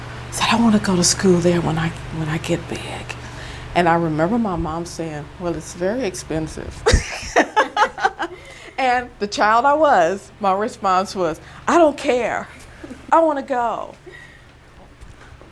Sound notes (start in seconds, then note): 6.8 laughing